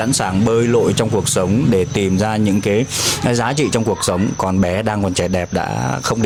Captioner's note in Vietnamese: khịt mũi